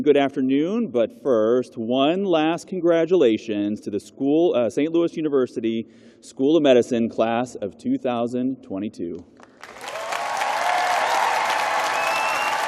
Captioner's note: cheers and applause